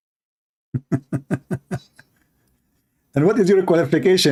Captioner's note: Ketawa